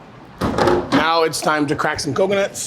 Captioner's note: coconuts thudding